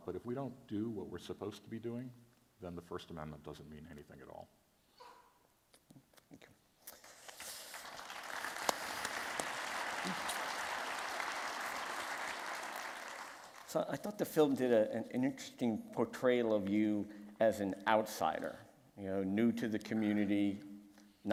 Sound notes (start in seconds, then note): 7.4 applause